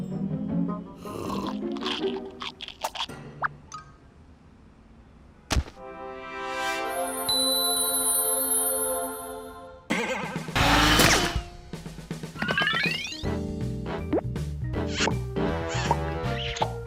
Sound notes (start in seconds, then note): 1.0 sucking; 1.3 crunching; 7.2 dings